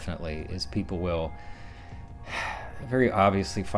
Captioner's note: sighs